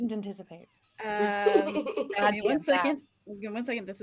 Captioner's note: laughing